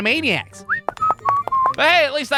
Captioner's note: whistles